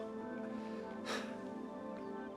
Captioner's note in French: soupirs